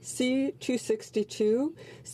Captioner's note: speaking in French